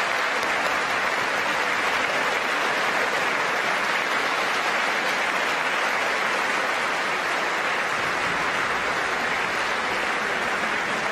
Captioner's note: applause